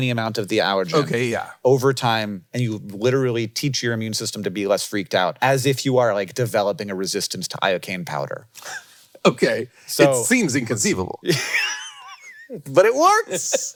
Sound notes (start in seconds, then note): 8.5 Jason chuckling; 11.2 Hank laughing